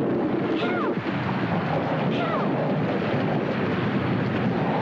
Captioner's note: wind howling